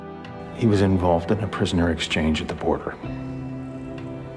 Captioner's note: voiceover